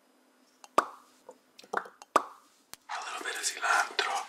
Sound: pops tongue

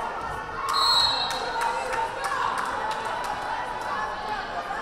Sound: whistle blaring

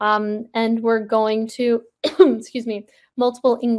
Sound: coughs

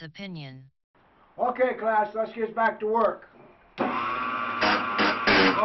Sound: saw Noise

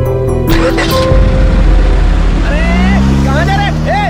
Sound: car zooming

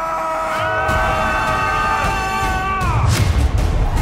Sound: shouting

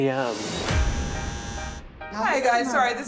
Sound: doorbell buzzes

